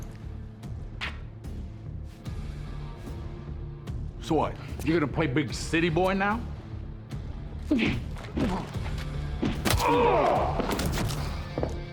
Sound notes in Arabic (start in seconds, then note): 0.2 موسيقى متوترة; 7.8 لكمة، آهات